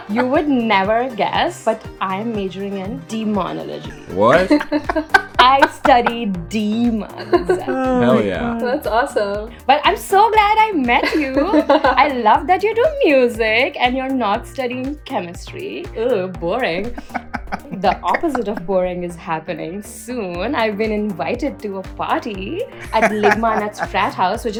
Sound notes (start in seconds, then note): 3.8 laughter; 11.0 laughs; 16.9 laughter